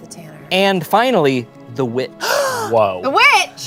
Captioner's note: gasps